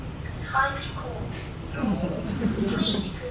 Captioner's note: laughter